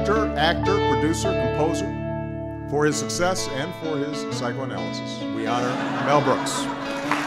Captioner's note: laughter; applause